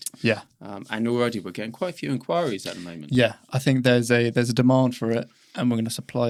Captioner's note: none